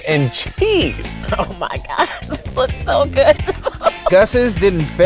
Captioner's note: laughs